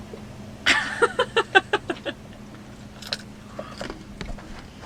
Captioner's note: laughs